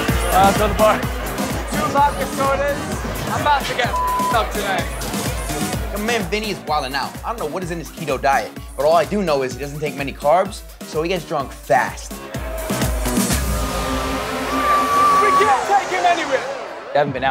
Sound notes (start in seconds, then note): 0.0 uptempo dance music; 3.9 beep